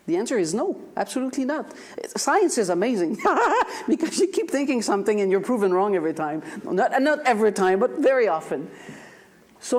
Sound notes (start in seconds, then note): 3.2 laughs